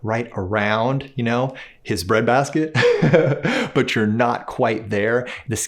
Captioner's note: chuckles